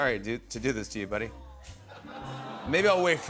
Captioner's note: audience awws